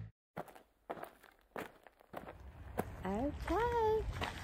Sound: feet on gravel crunching

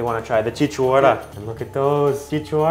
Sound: speaking foreign language

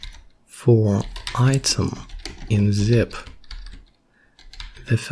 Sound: typing

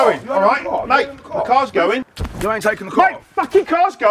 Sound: arguing

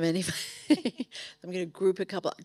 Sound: laughing

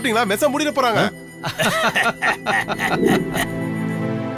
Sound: laughs

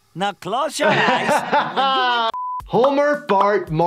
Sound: laughs

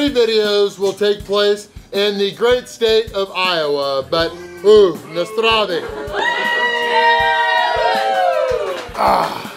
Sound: cheers

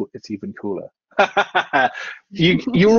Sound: laughs

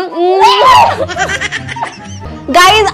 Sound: baby laugh

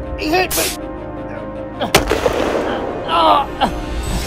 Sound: gunshot Sound

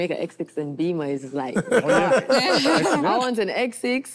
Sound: group laughs

